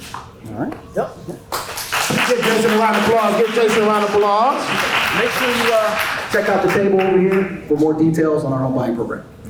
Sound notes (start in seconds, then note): 1.5 applause